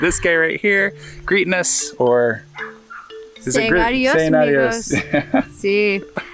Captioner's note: speaks foreign language